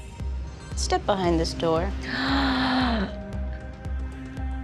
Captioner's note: gasps